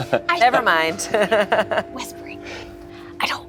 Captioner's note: laughs